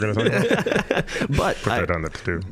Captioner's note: laughing